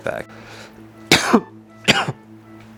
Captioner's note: coughs